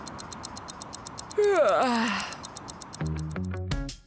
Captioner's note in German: gähnen